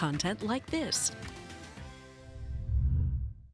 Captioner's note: uptempo cheery music; logo whooshing